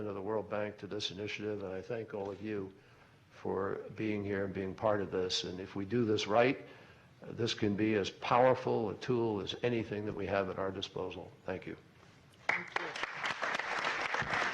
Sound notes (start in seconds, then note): 12.4 applause